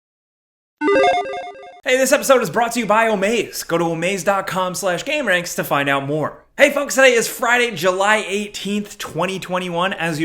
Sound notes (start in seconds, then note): 0.8 logo beeps